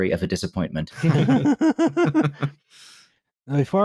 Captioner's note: laughter